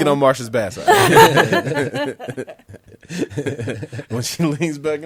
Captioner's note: laughs loudly